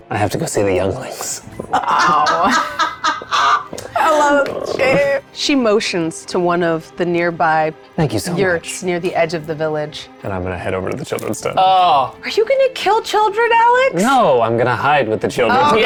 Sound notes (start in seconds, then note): 1.6 laughs